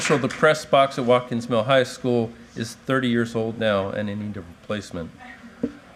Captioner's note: applause